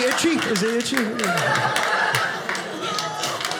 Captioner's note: audience laughing